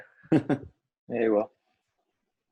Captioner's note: laughs